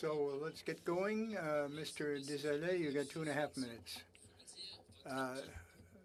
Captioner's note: speaking French